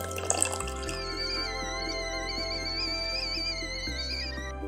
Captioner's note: kettle whistling